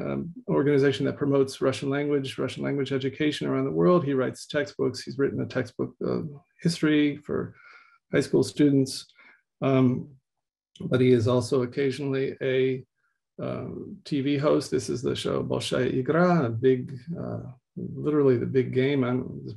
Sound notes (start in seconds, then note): 16.1 speaking in Russian